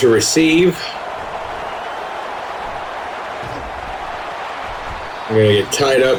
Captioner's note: crowd Noises